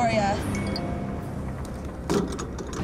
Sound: ding

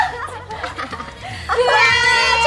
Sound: laughing

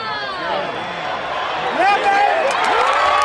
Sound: cheering

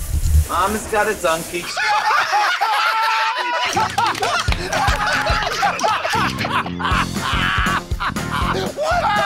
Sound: laughter

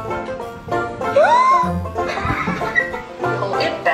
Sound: gasping

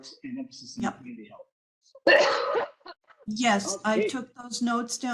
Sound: caugh

